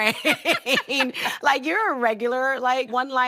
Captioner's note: both laughing